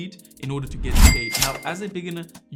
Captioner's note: cash register chimes